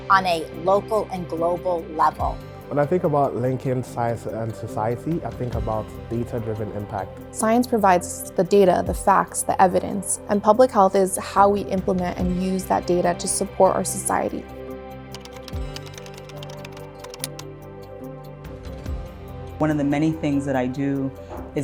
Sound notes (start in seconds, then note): 14.7 bright music continues; 15.1 keys tapping